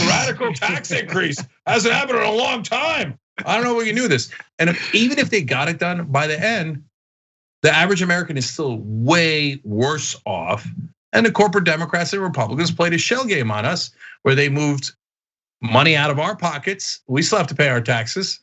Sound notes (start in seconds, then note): 0.0 laugh